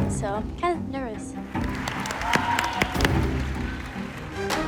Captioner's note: cheering